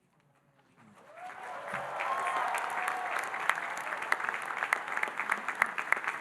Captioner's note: audience cheering and applauding